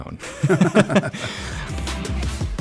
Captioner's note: laughs; melodious upbeat music